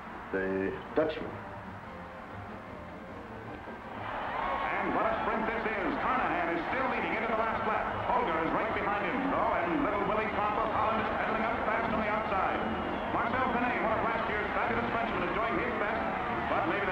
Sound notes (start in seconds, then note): 4.2 crowd cheering